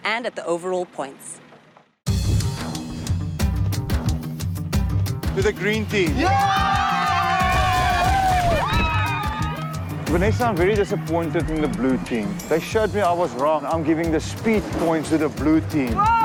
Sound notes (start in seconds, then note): 2.1 intense music; 6.1 cheers; 15.9 cheers